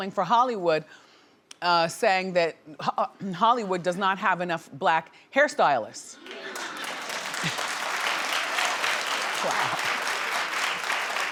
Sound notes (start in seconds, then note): 6.2 audience applauding